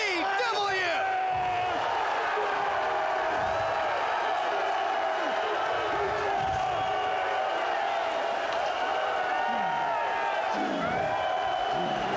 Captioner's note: applause